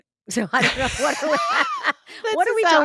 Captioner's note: both laughing